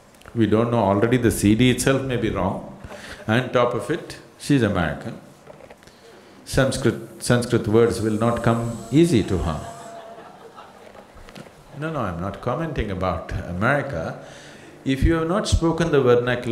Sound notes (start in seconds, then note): 9.9 laughter